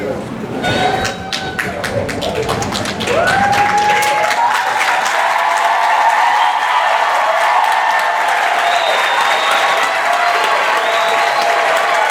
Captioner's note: applause